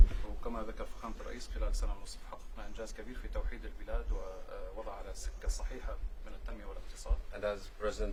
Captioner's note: speaking Arabic